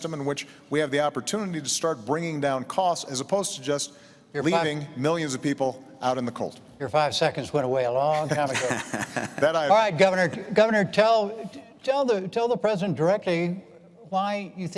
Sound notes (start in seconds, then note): 8.1 laughter